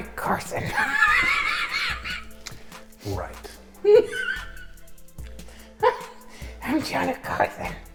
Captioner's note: hysterical laughter